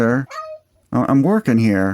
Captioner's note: meow